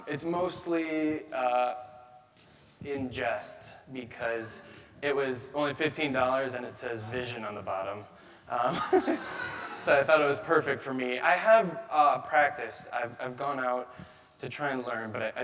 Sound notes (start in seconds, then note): 8.6 chuckles